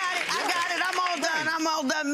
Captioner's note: audience applause